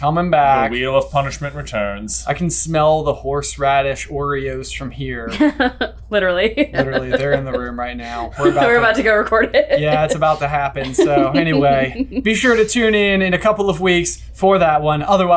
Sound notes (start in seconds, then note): 6.5 laughing